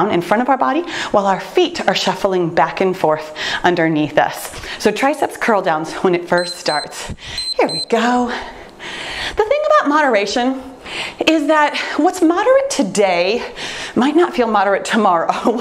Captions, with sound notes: in front of our body, while our feet are shuffling back and forth underneath us. So triceps curl downs when it first starts (timer beeps) Here we go, the thing about moderation is that what's moderate today, might not feel moderate tomorrow,